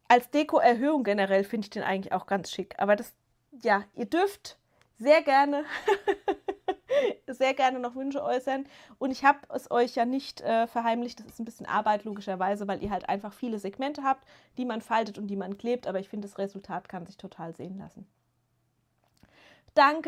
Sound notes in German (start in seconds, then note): 5.6 gelächter